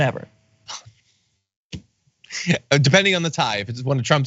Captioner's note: laugh